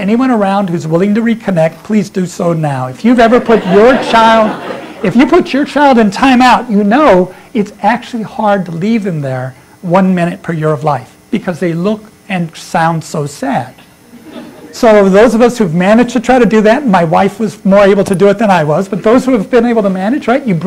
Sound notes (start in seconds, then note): 14.1 laughter